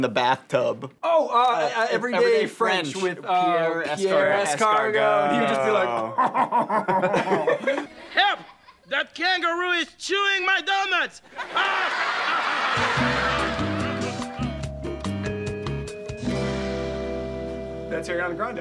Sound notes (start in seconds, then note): 7.4 laughs; 11.2 audience laughs; 15.5 upbeat music